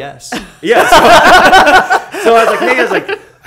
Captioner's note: laughter